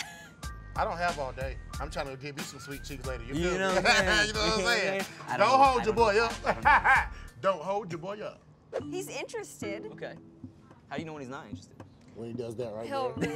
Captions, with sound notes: I'm tryin' to get me some sweet cheeks later. You know what I'm sayin'? (laughs) Don't hold your boy up. (laughs) Don't hold your boy up. - He's interested. - Okay. How you know when he's not interested? - When he does that right there. - He'll really just go back to sleep.